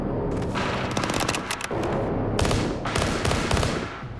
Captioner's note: gunfire